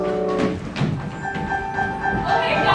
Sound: footsteps thumping; lighthearted piano music

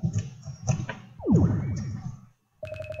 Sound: bounce

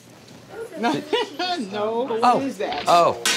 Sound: laughs

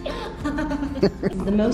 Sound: laughing

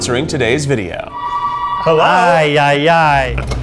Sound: phone ringing

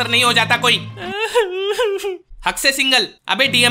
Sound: crying

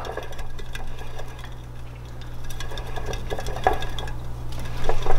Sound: hamster wheel spinning

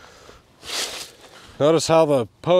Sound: shovel scraping; wind whooshing; concrete rattling

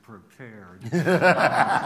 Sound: laughter

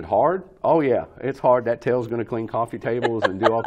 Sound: laughs

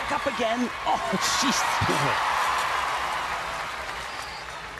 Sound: audience cheering

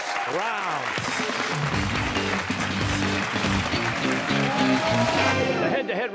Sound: cheers and applause

